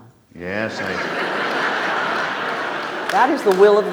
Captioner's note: audience laughs